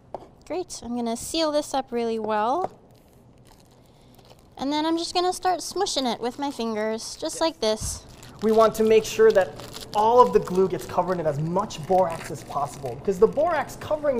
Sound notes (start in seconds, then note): 7.8 bag crinkling